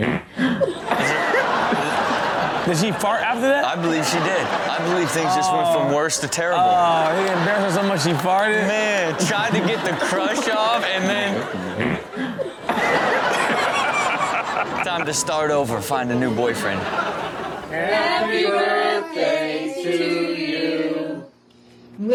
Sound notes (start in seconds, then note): 0.0 friend passes gas; 11.7 friend passes gas; 12.7 all laugh